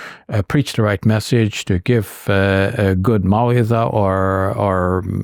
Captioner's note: speaking in Arabic